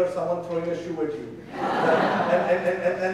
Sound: audience laughing

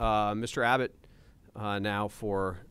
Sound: executive Director speaking

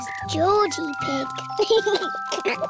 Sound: giggles

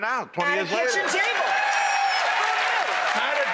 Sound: cheers

